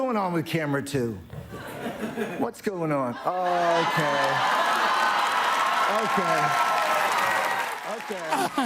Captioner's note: cheers and applause